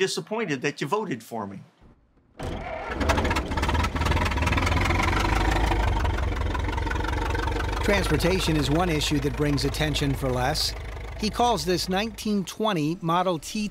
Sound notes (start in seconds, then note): 4.3 engine turns over; 6.9 engine putters